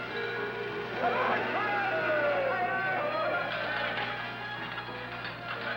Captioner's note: yelling